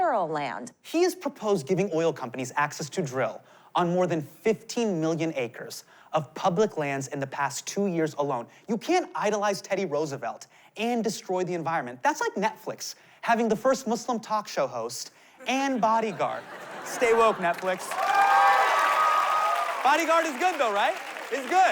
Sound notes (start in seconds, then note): 16.5 cheering, applause